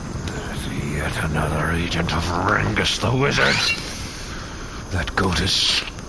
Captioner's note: draws sword